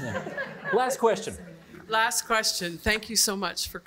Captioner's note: all laughing